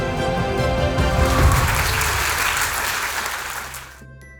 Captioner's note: crowd clapping